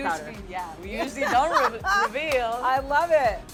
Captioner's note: laughs